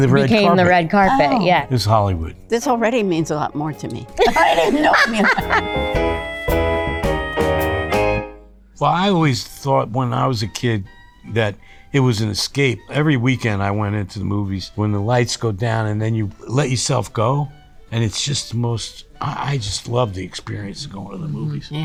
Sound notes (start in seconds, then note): 4.2 laughs; 4.2 chuckles; 6.9 instrumental jazz music